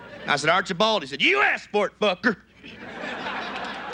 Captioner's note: gruff voice; audience laughs